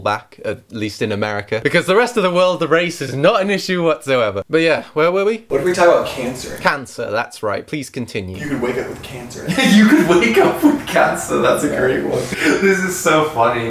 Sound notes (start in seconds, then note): 9.4 laughs